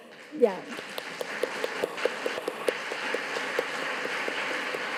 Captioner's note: audience applauding